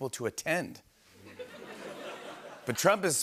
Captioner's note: laughter